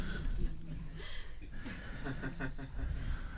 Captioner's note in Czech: smích